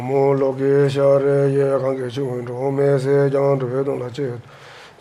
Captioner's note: reciting in foreign language